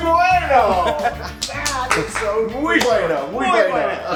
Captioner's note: laugh; applause